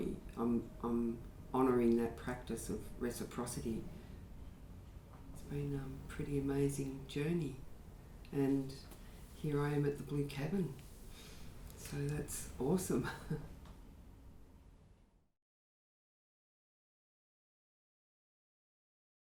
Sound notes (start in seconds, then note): 13.0 chuckles